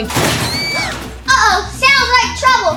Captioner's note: scream